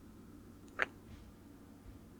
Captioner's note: kiss